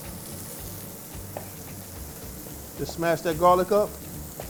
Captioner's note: sizzling food